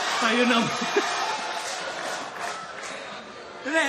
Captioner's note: laughter